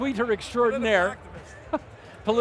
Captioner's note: laughing